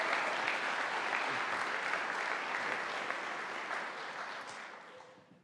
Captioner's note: audience applauding